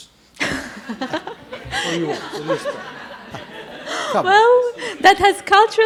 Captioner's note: audience laughs